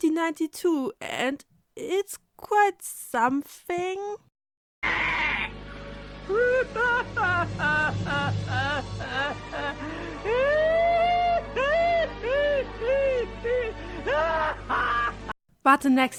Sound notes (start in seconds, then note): 6.2 earth shattering evil laughing; 11.0 earth shattering evil laughter INTENSIFIES